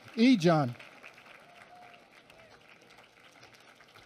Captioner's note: applause